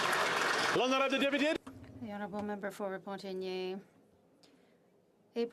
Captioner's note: applause